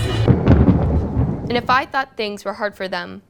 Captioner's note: thunder